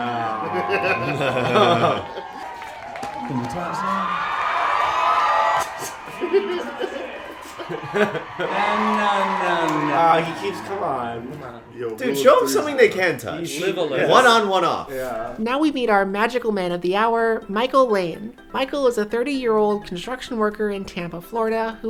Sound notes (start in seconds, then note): 5.1 applause